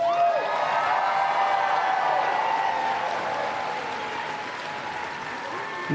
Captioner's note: cheering and Applause